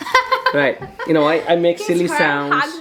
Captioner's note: mommy laughing